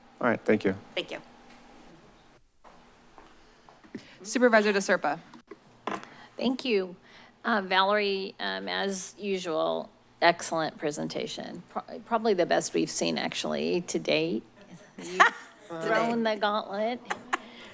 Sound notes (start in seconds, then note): 2.5 footsteps; 14.8 amused laughter